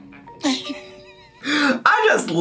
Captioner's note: Amy laughing